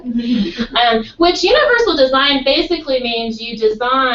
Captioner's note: laugh